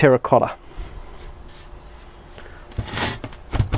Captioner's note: scraping